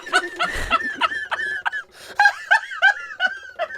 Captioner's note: laughing